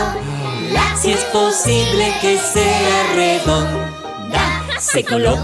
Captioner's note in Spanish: Risas